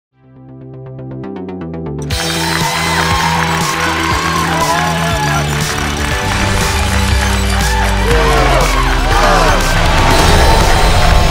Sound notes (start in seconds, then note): 2.3 crowd cheers; 4.6 upbeat techno music